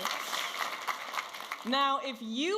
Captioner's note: audience applauding and cheering